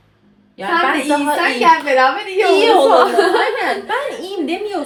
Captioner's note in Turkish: kahkaha